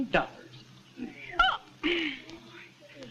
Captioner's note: gasps